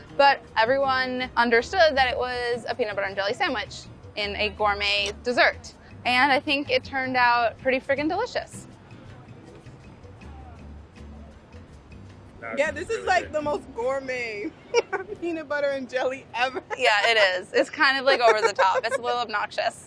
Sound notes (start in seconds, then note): 9.0 soothing music; 14.7 laughs